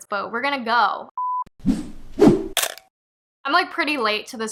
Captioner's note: beep swoosh swish crunch